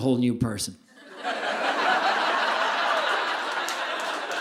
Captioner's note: audience laughing